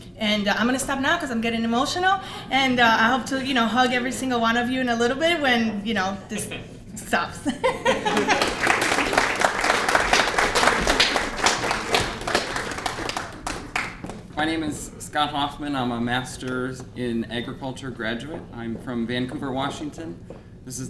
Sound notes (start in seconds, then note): 7.6 laughter and applause